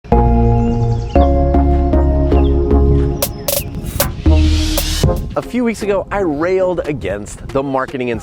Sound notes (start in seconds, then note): 0.0 bright electronic music; 0.1 birds chirping